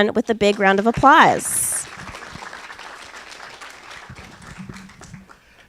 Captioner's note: applause